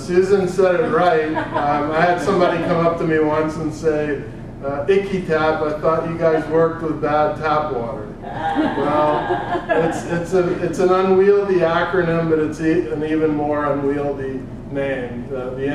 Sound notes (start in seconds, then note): 0.6 laugh; 8.2 laugh